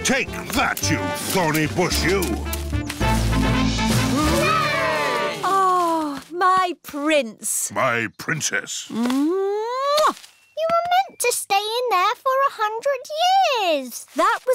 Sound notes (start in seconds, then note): 4.0 all cheering; 9.9 kisses